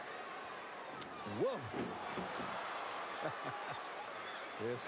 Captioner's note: laugh